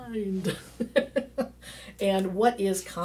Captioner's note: laughing